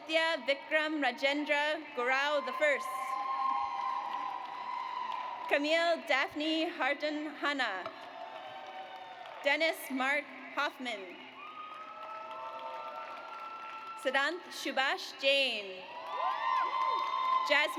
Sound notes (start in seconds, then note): 3.0 audience cheers; 7.7 audience applauds; 11.2 audience cheers; 15.7 audience cheers